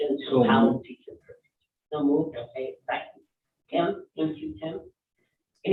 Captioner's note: none